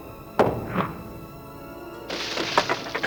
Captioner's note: thuds